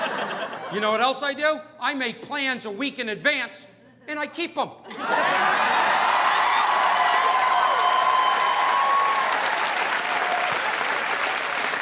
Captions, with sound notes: You know what else I do? I make plans a week in advance and I keep 'em. (audience laughing) (audience applauding)